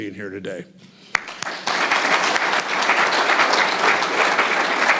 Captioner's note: audience applauds